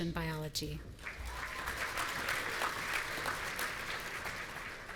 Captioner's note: audience applauding